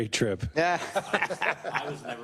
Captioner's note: laugh